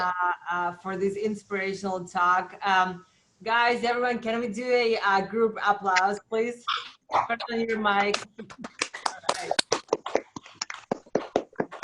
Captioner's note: applause